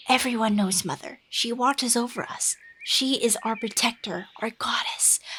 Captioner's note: whispering